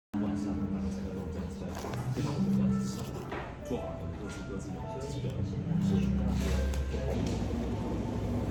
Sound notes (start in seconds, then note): 0.1 sounds of the cafe buzz softly